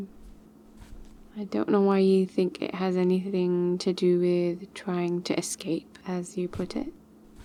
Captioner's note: sneaky steps